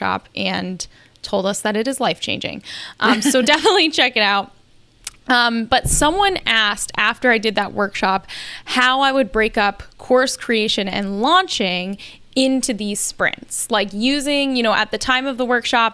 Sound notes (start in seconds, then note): 3.0 laughs